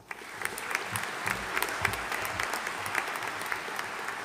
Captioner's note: audience applauding